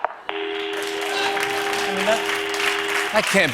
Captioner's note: cheers and applause